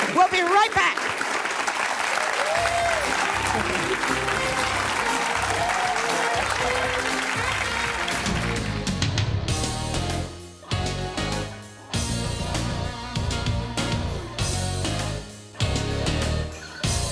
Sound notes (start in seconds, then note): 1.9 audience applauds; 4.4 lighthearted music; 9.0 determined music